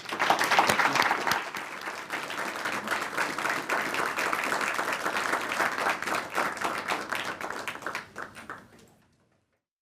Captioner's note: applause